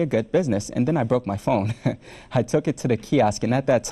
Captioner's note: laughs